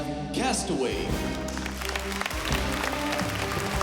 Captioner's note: cheers and applause